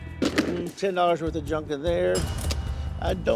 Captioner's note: cash register dings